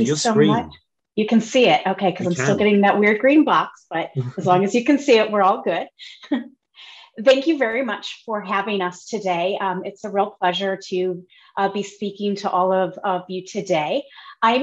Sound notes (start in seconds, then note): 4.2 chuckles